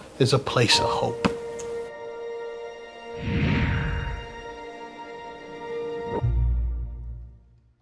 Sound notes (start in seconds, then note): 1.5 light, hopeful music; 3.1 swooshing